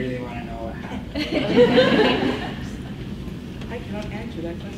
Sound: laughs

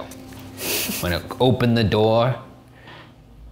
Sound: laughs

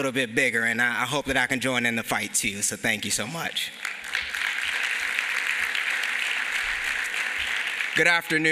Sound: applause

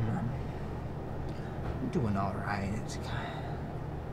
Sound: sigh

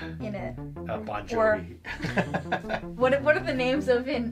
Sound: laughs

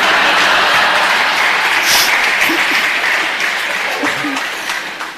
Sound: laughter/Applause

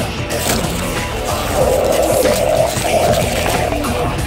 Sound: monster gobbling noises

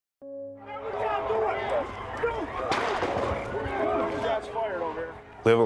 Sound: people shouting; gunshots

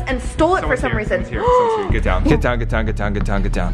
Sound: gasping

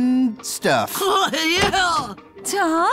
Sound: door opens

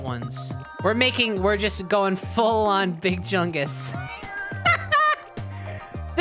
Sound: laughing

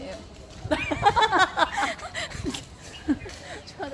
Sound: laughing

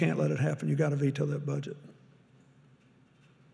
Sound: none

